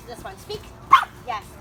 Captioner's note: bark